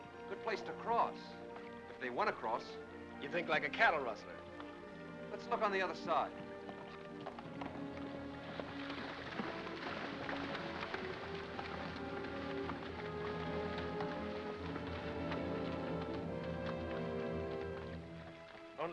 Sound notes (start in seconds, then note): 7.4 water splashes; 7.6 ominous music